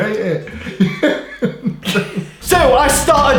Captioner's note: laughing